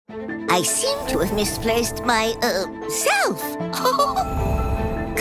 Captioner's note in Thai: หัวเราะคิกคัก